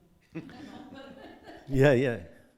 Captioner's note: audience laughing